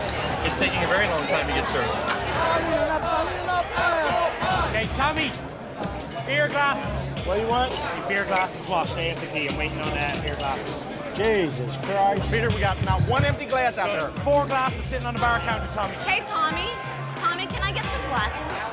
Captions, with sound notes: It's taking a very long time to get served. (CHANTING) Apple pie! I need another glass. OK, Tommy, beer glasses. What do you want? I need beer glasses washed ASAP. I'm waiting on beer glasses. Jesus Christ. Peter, we got not one empty glass out there. Four glasses sitting on the bar countertop. Hey, Tommy? Tommy, can I get some glasses?